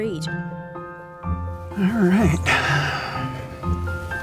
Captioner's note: sighs